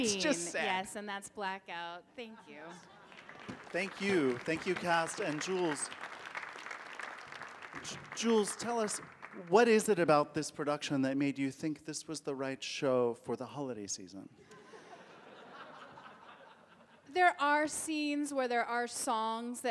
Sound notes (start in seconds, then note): 6.0 audience applauding; 14.4 audience laughing